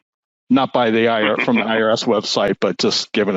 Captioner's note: laughing